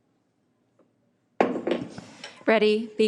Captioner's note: hammer thuds